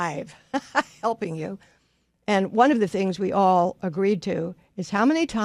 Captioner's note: laughs